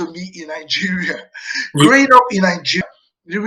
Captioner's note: chuckling